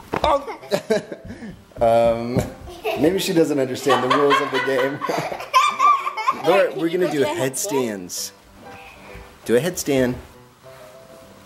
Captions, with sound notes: Maybe she doesn't understand the rules of the game. (laughs) Laura, we're gonna do headstands. Do a headstand.